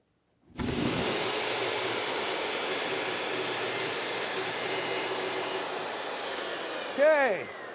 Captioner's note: saw whirring